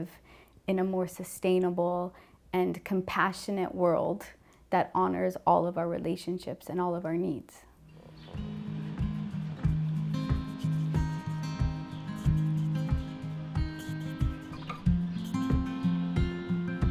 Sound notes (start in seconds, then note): none